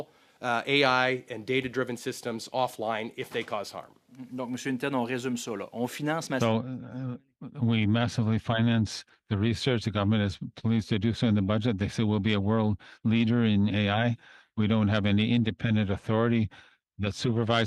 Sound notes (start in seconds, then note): 10.1 speaking french